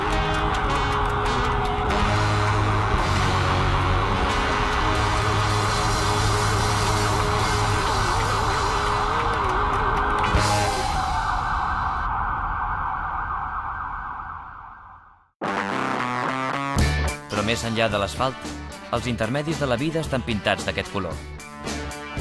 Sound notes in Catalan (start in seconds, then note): 0.2 sirenes